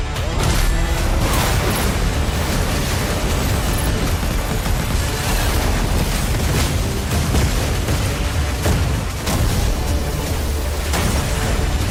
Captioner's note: mechanical clinking